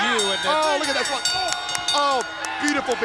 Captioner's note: bell ringing